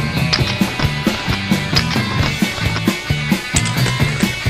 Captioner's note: cable snaps; energetic rock music; cables snapping